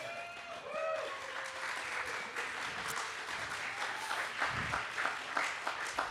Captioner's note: audience applauding